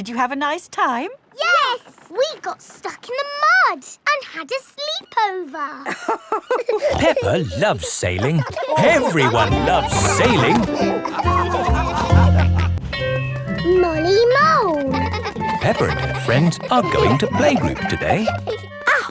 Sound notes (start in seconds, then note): 6.1 both laughing; 11.4 all laughing; 14.3 giggling